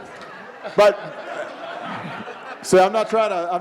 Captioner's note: audience laughing